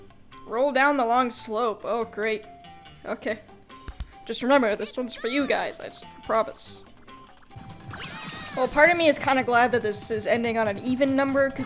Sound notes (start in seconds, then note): 3.8 pounds chest